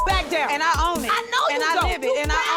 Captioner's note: beep